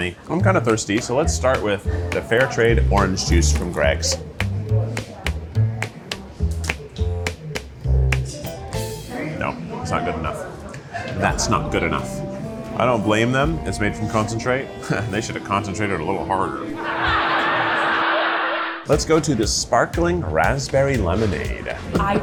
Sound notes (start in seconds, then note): 4.5 gentle upbeat music; 16.6 audience laughing; 16.7 chuckles